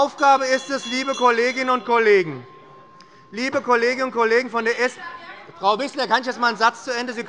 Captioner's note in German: Unruhe bei der SPD und der LINKEN - Glockenzeichen des Präsidenten